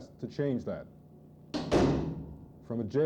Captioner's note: sound of cell door closing